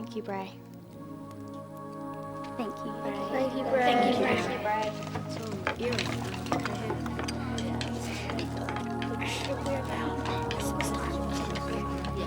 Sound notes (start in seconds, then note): 6.1 muffled chatting